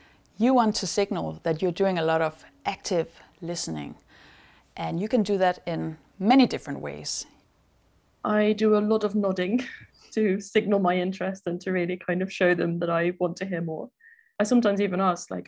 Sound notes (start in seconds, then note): 9.4 laughs